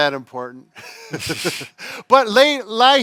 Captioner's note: both chuckles